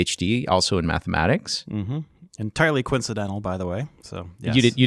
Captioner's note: affirms